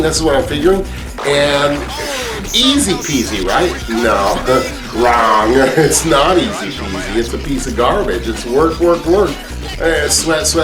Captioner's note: laughing